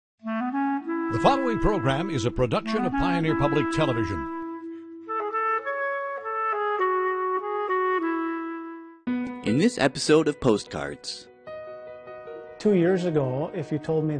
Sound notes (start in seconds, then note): 1.2 voiceover; 4.2 clarinet music; 9.5 voiceover